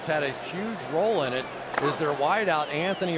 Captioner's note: whistle